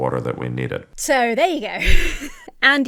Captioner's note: laughs nervously